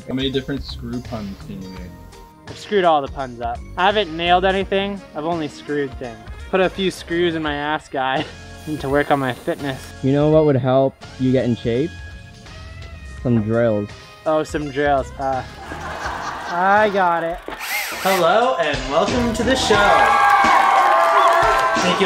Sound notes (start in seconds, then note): 15.4 audience laughing; 17.3 drill whizzing; 19.7 audience applauds